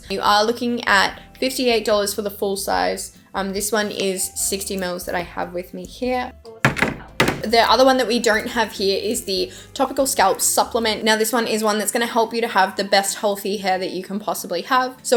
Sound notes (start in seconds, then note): 6.6 container drops